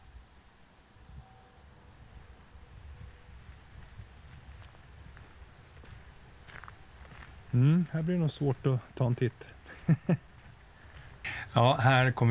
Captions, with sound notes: This will probably be difficult to take a look at (nervous laugh x 2)